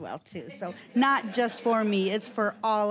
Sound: audience laughing

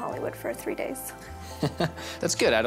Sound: chuckles

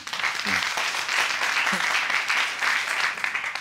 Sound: audience applauding

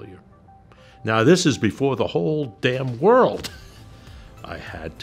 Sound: chuckles

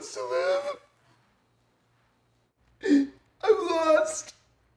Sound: crying

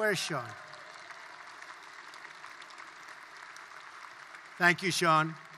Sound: applause

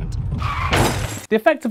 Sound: crash

